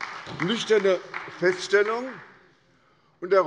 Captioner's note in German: Beifall bei der SPD